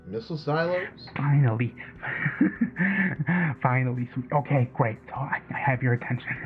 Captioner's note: laughing